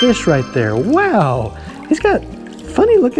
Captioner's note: chimes ringing